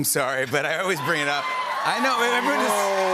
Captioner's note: cheers and applause